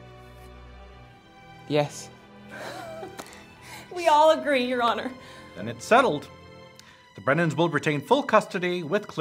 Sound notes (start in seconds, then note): 2.5 all laughing